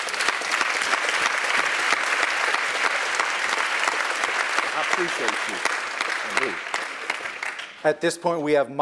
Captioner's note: applause